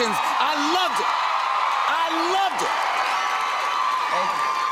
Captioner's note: cheers and applause